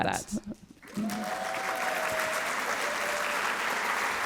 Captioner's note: applause; cheering